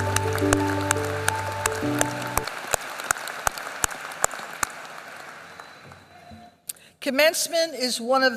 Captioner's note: applause